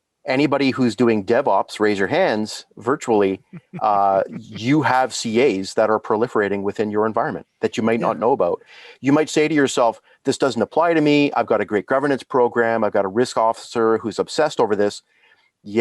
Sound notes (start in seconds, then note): 3.7 laughing softly